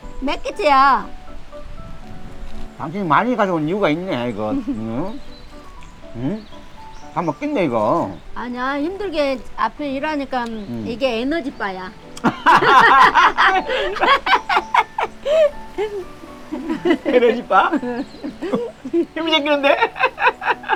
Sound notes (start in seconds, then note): 12.8 both laughing